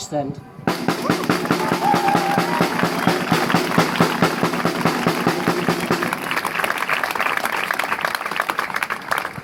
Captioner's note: drumming applause